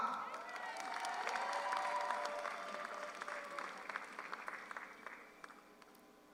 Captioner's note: audience cheers; audience applauds